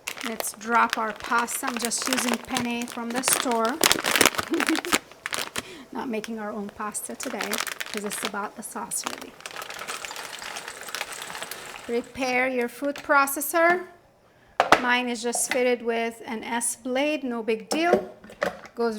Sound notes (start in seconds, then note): 4.4 host chuckling; 9.7 pasta falling